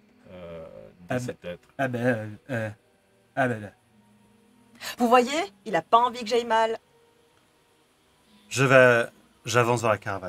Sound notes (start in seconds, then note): 1.6 Alcyd speaks in his own language